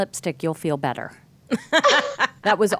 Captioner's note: laughing